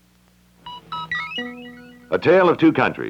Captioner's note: Electronic audio effect